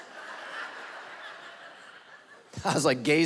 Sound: congregation laughing

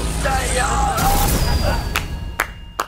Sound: explosion; clapping

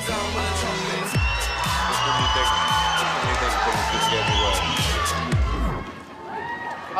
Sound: hiphop music; crowd cheers

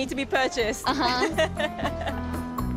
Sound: laughs

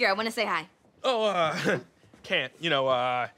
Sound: chuckles

